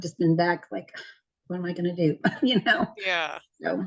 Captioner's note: laughs